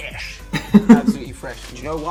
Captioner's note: laughs